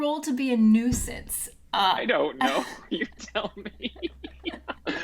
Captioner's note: laughs